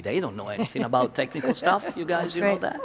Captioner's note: panel laughs